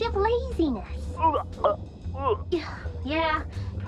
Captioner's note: vomiting and choking sounds